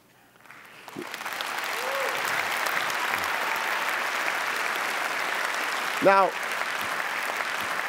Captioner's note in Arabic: تصفيق